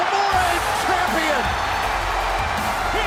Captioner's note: crowd cheering